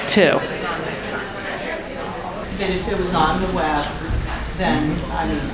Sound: crowd talking

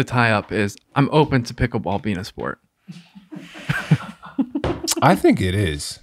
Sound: all laughing

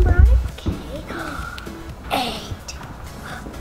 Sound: gasp

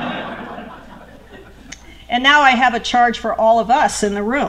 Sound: laughter

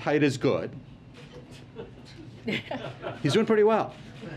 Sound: laughter

